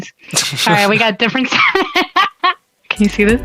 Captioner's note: laughing